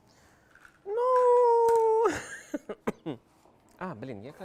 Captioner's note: laughter